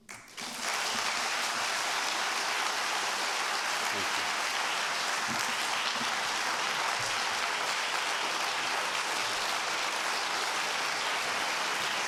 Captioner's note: applause